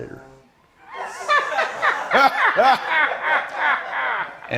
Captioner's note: laughter